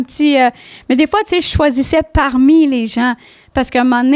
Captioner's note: in french